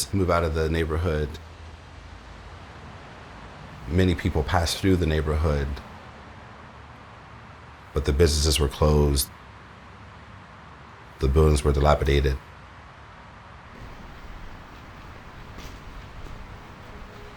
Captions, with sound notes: move out of the neighborhood. [traffic noises] Many people passed through the neighborhood, but the businesses were closed, the buildings were dilapidated. [footsteps]